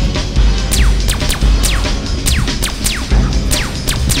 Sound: guns zapping

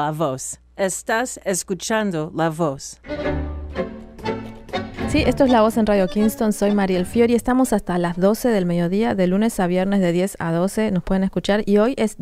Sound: speaking foreign language

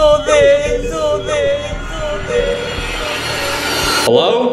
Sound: air whooshing

